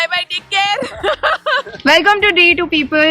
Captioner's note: chuckles